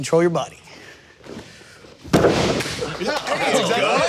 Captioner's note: mat crashing